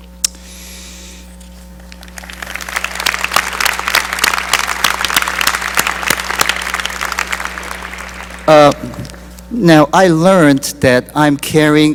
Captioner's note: applause